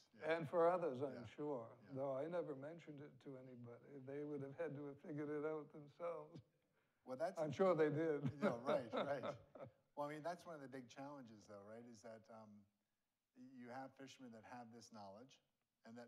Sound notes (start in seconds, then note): 7.4 laughs